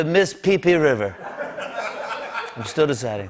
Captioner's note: laughter